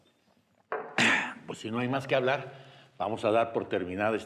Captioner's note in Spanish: Carraspea